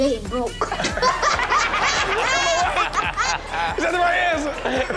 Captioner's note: laughs; all laughing